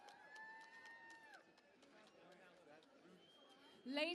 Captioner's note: cheering and Applause